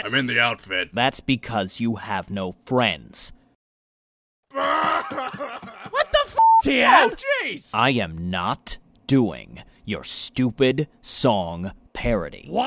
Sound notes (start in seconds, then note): 4.5 Piccolo crying